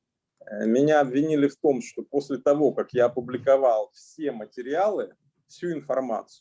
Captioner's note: speaking Russian language